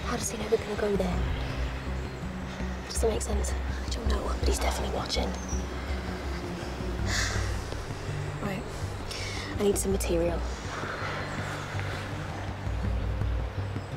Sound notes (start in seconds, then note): 8.0 Selina sighs